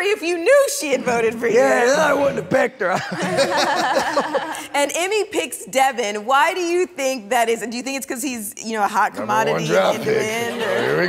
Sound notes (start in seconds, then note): 3.0 everyone laughs